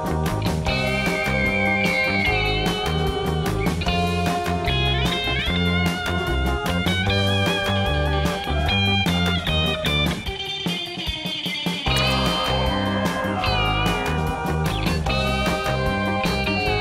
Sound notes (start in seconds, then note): none